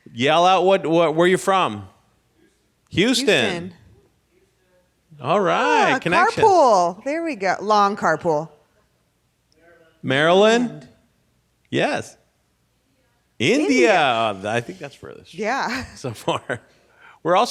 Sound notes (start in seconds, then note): 3.8 man yells off mic; 12.3 woman yells off mic